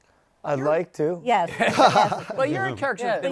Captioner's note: laughs